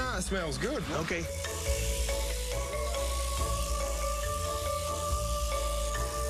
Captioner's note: shears whirring